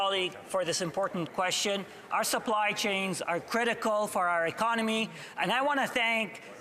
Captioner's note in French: voix de l'interprète